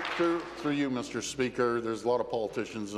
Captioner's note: applause